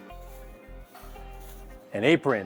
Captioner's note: plastic rustling